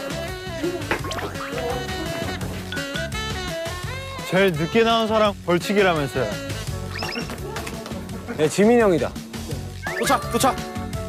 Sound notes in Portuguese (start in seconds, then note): 2.1 Descontraído